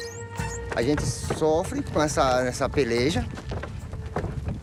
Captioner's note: Portuguese spoken audio